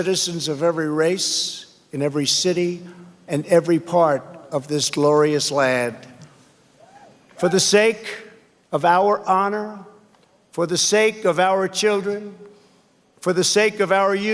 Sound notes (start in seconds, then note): none